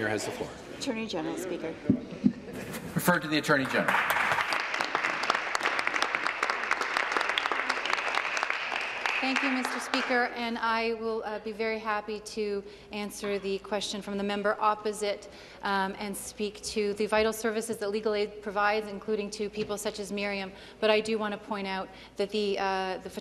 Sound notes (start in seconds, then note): 6.8 applause